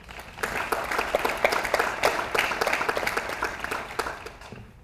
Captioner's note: audience applauds